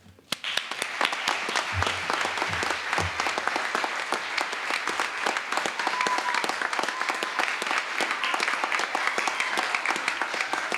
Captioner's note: applause